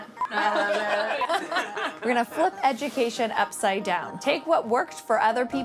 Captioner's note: laugh